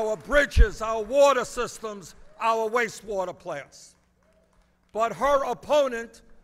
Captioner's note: applause